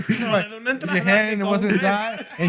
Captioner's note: speaking Spanish